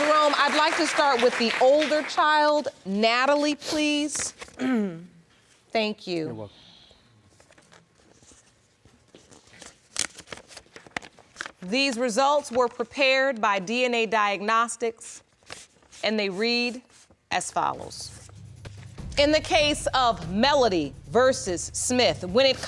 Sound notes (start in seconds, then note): 4.5 clears throat